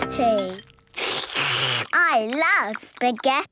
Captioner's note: slurping